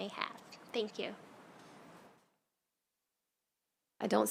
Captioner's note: silence